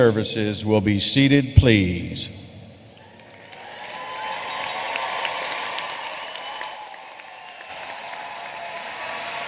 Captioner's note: applause